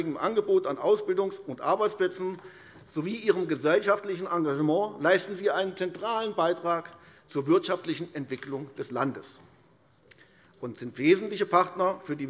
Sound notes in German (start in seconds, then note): none